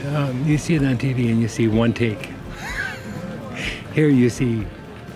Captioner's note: chuckles